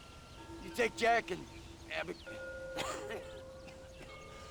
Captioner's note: cough